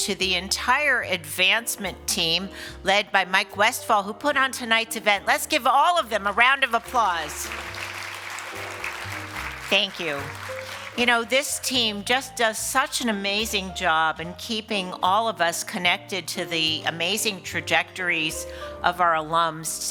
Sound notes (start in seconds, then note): 6.7 applause